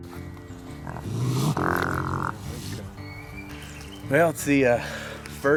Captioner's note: angry growling